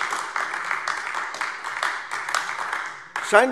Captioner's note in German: Beifall AfD